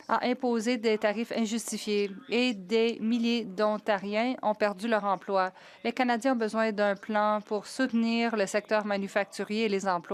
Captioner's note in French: voix de l'interprète